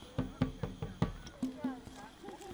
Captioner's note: footsteps on grass